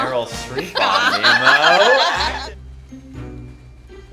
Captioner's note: laughing